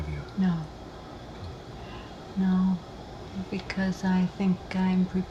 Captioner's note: none